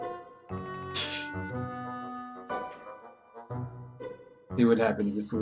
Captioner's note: laughs softly